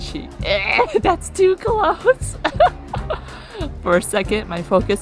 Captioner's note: laughs